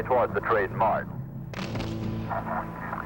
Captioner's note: gunshots